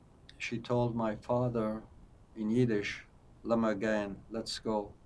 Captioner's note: yiddish